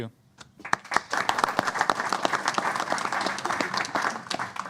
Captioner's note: applause